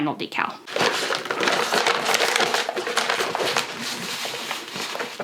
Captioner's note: backing paper rustling